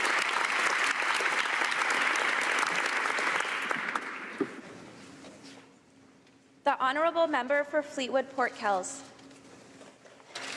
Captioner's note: cheering and Applause